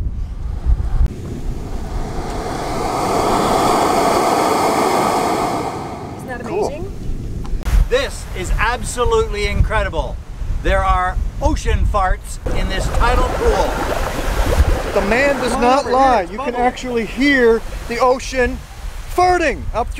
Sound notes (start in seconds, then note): 2.3 sound of air rushing through the hole in the rock